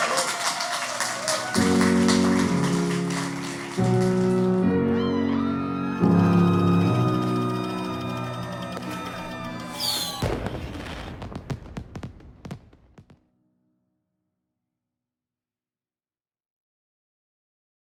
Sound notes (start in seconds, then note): 0.1 crowd applauding; 1.3 gentle instrumental music; 5.6 crowd cheering; 9.6 firework explosions